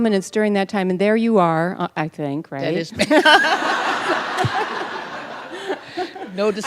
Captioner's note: laughter